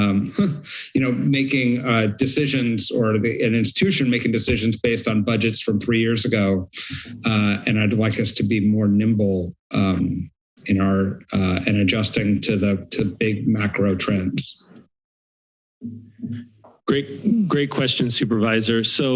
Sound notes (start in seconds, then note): 14.6 silence